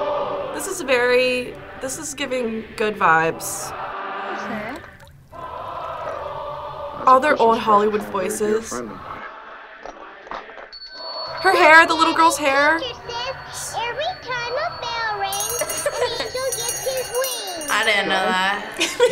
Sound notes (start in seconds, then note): 11.0 bell rings